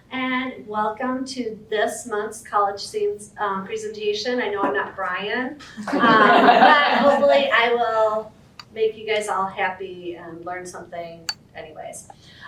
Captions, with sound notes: And welcome to this month's College Theme presentation. I know I'm not Brian, [audience laughter] but, hopefully I will make you guys all happy and learn something, anyways.